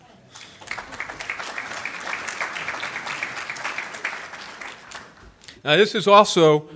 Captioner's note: applause